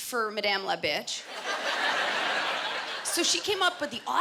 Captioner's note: laughter